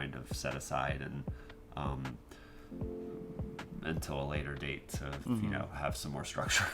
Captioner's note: laughs